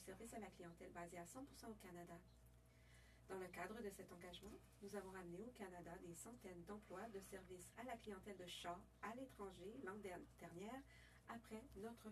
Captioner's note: speaking French